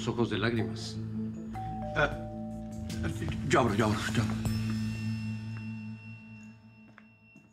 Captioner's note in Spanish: Timbre de la puerta